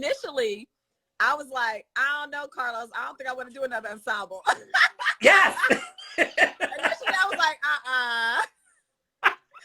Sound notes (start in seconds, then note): 4.4 Monique laughs; 4.5 Carlos laughs